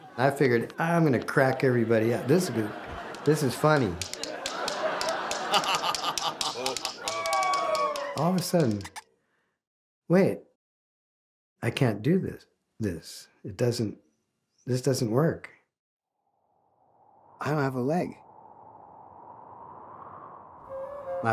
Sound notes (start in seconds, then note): 3.0 tapping; 4.2 people laughing; 18.7 wind gusting